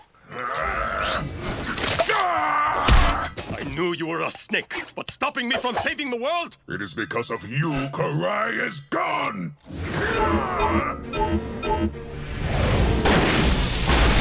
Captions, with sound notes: [grunting] I knew you were a snake but stopping me from saving the world?! It is because of you Karai is gone! [beeping]